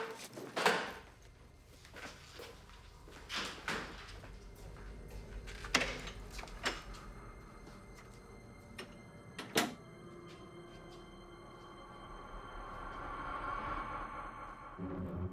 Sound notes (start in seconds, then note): 1.1 ominous music; 9.4 door closes; 10.5 suspenseful music